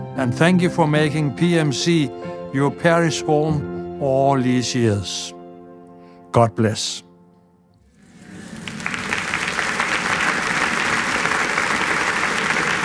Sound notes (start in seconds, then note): 7.9 applause